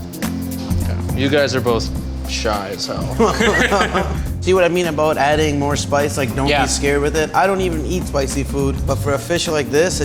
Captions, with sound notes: You guys are both shy as hell. (laughs) - See what I mean about adding more spice. Like, don't be scared with it. I don't even eat spicy food, but for a fish like this,